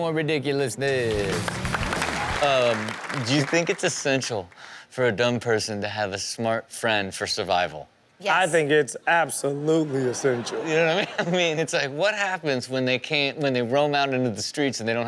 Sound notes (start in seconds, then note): 0.8 audience applauds and cheers; 0.9 rock music plays; 9.7 audience laughs